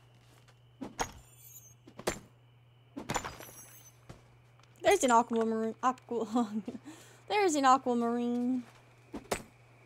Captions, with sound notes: There's an aquamaroon- Aqua [Laughs] There's an aquamarine!